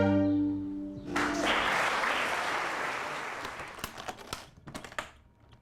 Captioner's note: audience applauds